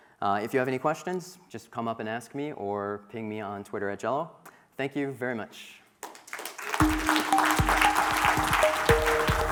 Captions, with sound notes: If you have any questions, just come up and ask me or ping me on Twitter @dzello. Thank you very much. (audience clapping) (upbeat music)